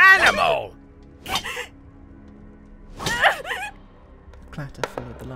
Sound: cries of pain

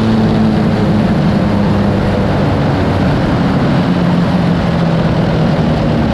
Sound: motorcycle engine slowing down

